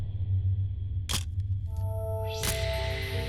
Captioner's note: camera shuttle click